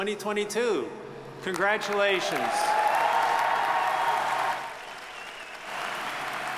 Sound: crowd applauding

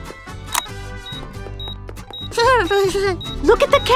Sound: click, beeping

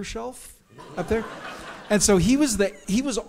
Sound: audience laughs

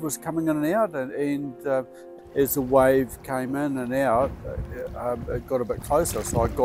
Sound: waves lapping

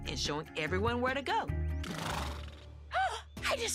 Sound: horse snorts

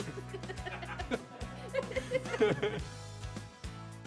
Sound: laughing

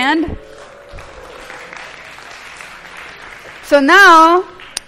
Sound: applause

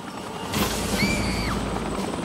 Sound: gun firing; screaming

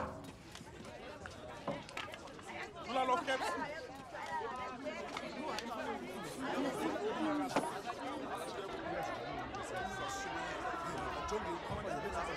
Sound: indistinct conversations

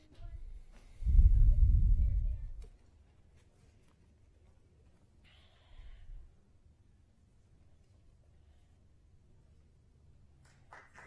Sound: applause

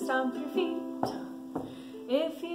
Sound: stomping

